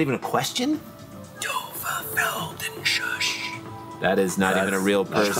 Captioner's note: whispered